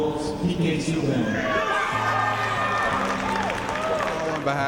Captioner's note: cheering